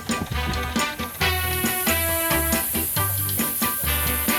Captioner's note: steam escaping